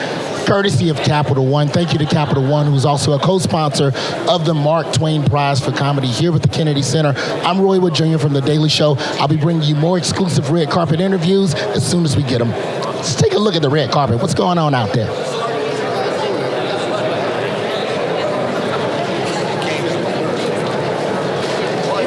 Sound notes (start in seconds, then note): 16.3 people talking